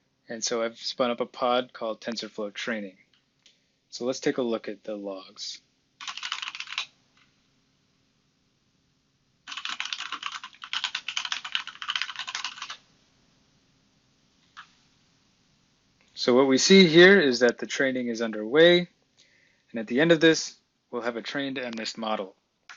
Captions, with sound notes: and so I've spun up a pod called TensorFlow training. So let's take a look at the logs. (typing) So what we see here is that the training is underway. And, at the end of this, we'll have a trained MNIST model.